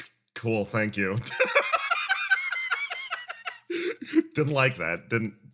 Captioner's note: laugh